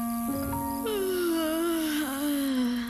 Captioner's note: yawn